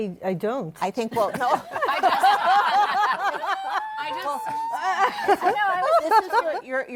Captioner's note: laughter